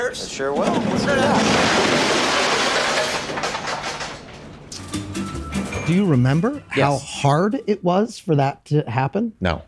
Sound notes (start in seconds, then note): 2.0 truck crashing and banging; 4.7 whimsical music